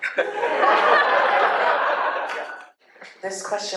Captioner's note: laughter